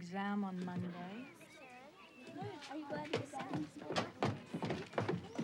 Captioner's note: kids chattering